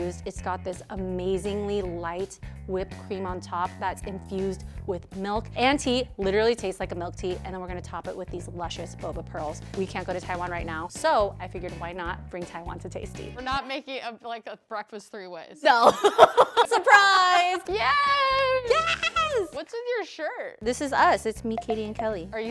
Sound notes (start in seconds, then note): 15.7 laughs